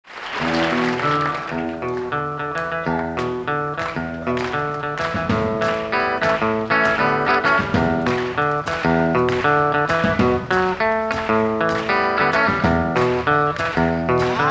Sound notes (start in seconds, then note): 0.9 audience applauds; 0.9 upbeat rock music